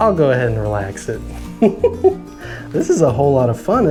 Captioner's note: giggles